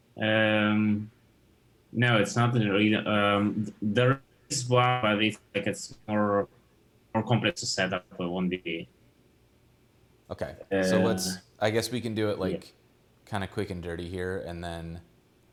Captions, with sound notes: - No. The (audio becomes choppy) or complete to setup if we wanted it to be. - Okay. We can do it kinda quick and dirty here and then--